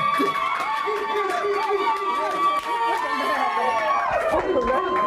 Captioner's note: crowd cheering